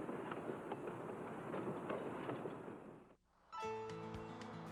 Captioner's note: train rumbling